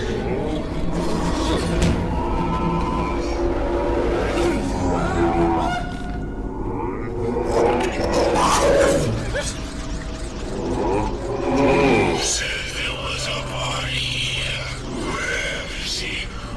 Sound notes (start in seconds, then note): 4.4 resident of the house screaming; 6.5 loud growl from a hunter